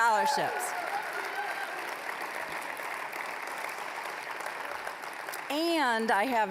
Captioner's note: applause